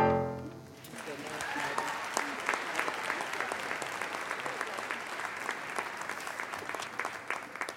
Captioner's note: applause